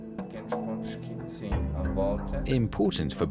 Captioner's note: man speaking German